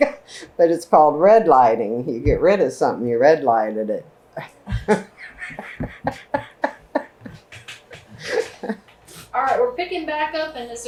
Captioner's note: laughter; laughs